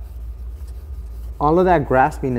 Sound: scratching sounds

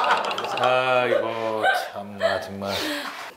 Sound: pffft

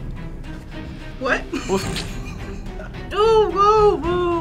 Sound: snorts with laughter

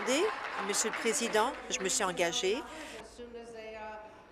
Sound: applause

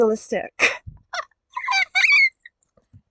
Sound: squeal of anxiety

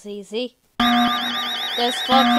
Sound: alarm

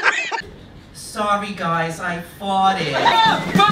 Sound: new York Accent

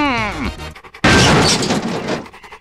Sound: crashhh

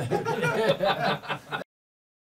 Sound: laughing

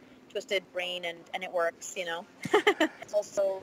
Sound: laughs

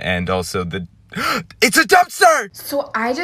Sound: gasp

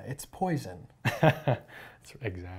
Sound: laughs

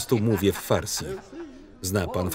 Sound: speaking Farsi

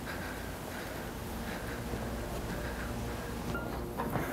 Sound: Alister panting

